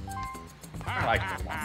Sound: laugh

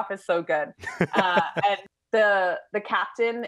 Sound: laughing

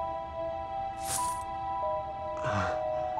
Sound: coins fall

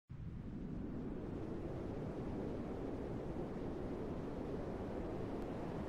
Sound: le vent is 'owling

